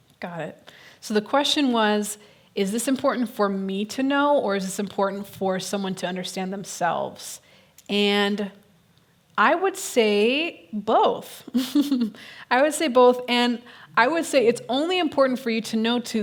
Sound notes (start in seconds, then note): 11.9 laughs